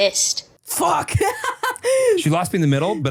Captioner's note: laughs